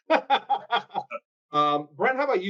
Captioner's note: laughs